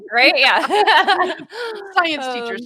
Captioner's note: chuckles